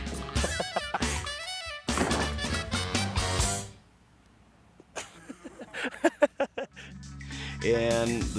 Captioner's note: laugh